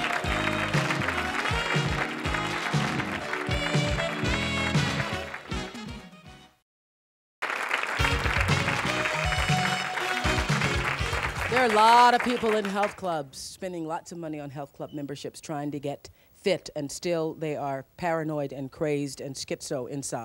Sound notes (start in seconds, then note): 0.0 theme music; 7.4 audience applause; 7.8 theme music